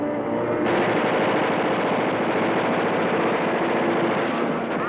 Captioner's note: gunfire blasting